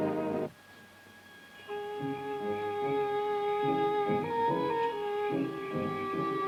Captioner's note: insects chirping; exotic orchestral music